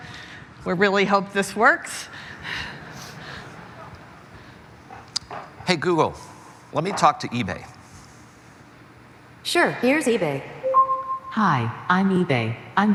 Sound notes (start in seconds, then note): 2.6 laughter